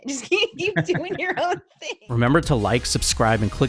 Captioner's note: both laughing